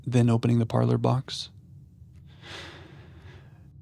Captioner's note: sighs